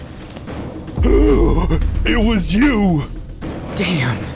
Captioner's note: gasps